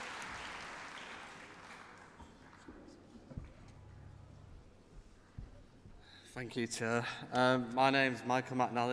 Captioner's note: applause